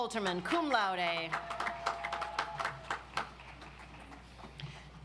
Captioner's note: audience applauds